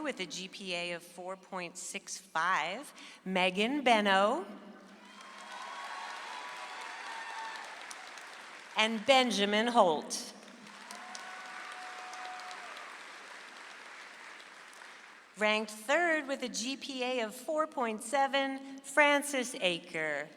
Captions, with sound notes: With a GPA of 4.65, Megan Beno. (audience applauds) And Benjamin Holt. (audience applauds) Ranked third with a GPA of 4.7, Frances Aaker.